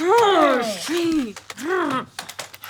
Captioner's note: grumbling